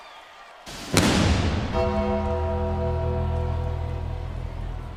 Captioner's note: lightning cracks